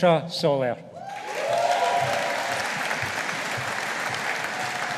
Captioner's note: audience applauding